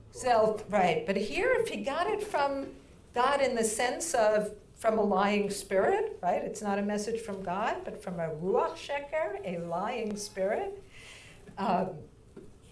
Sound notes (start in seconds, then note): 8.2 speaking in foreign language